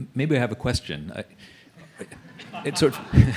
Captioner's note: laughing